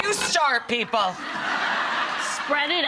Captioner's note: laughing